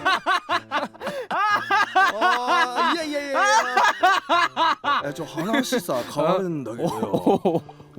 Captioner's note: laughing